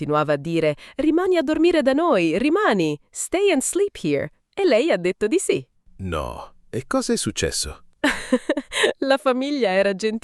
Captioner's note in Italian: risate